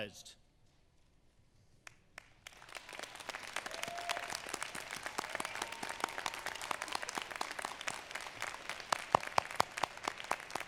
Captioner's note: applause